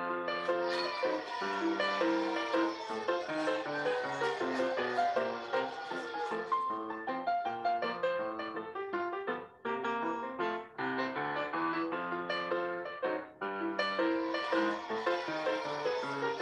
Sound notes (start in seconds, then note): 0.3 crowd cheers; 0.4 music continues playing; 13.7 crowd cheers again; 13.8 music continues playing